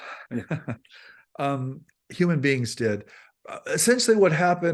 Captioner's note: laughs